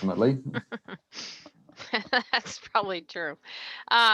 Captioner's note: laughs